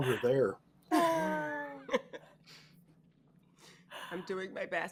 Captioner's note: all laughing